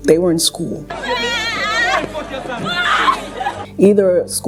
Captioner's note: crying